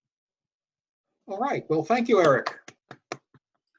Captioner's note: claps